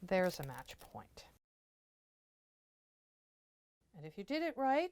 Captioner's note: no Sound Present